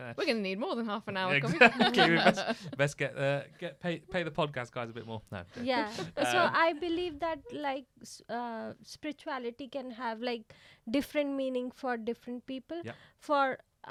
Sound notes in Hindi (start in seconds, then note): 5.8 हंसी